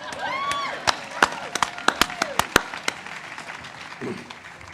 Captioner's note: audience applauds and cheers